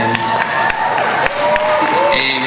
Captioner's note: audience cheers